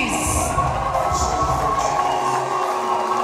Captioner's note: audience cheering; rap music begins